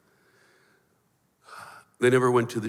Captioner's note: sighs